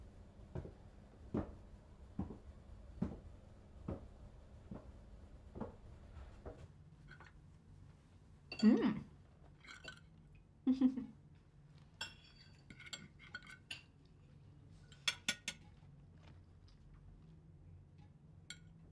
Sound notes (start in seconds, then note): 10.6 giggles; 12.0 cutlery scraping and rattling